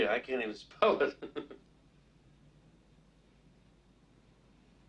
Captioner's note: Mike chuckles